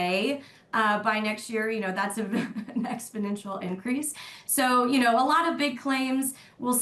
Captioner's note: laughter